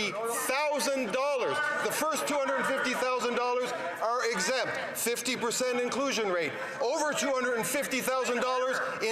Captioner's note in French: voix de l'interprète